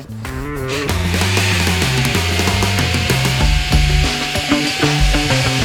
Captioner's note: tool motor whirring